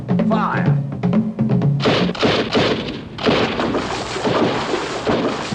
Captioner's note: guns shooting